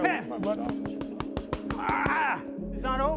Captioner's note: pounding